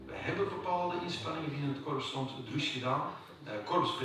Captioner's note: Dutch spoken audio